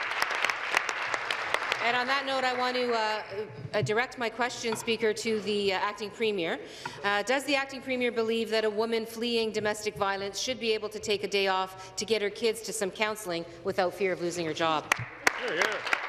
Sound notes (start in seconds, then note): 3.3 applause